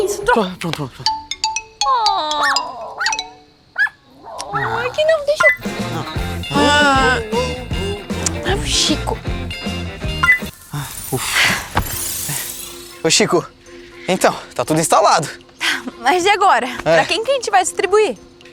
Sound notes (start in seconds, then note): 3.8 barking; 5.5 humming